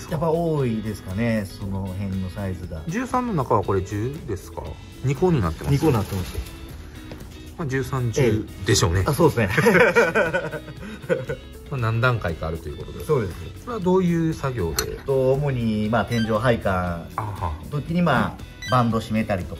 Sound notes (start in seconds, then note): 9.6 laughs